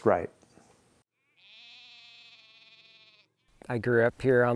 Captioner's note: sheep bleating